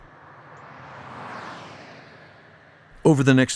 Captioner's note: car engines whirring